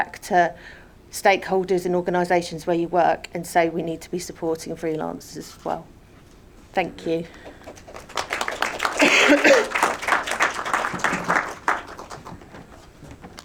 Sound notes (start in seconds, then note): 7.3 audience applauding